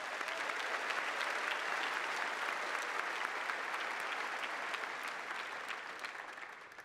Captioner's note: applause